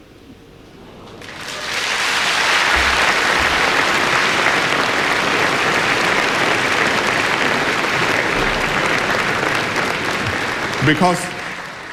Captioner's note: applause